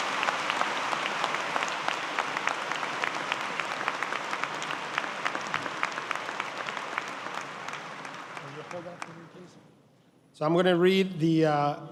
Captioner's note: applause